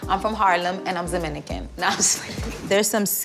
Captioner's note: laughing